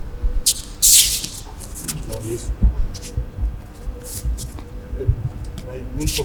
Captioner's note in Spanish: sonido desplazamiento en tatami